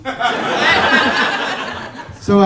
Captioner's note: laughter